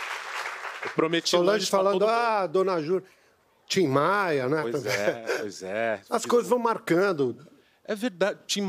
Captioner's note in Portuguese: aplausos